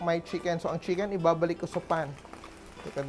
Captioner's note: sizzle